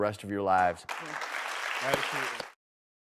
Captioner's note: audience clapping